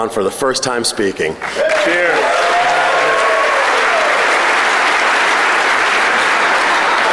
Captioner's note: applause